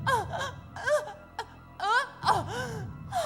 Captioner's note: sobs